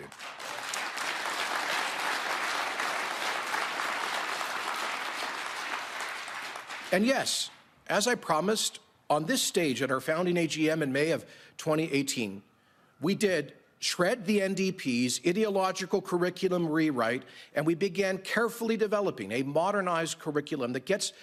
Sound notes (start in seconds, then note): 3.6 applause